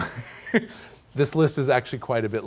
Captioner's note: laughs